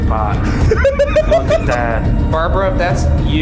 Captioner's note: laughing